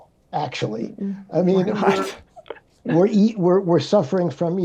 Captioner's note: chuckles